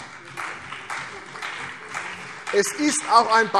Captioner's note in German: Beifall CDU und BÜNDNIS 90/DIE GRÜNEN